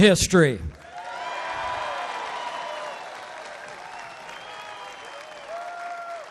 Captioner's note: applause